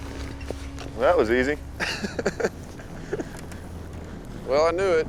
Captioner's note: laughing